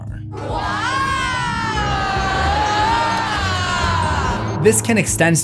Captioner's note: laugh track